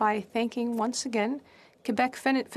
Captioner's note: speaking French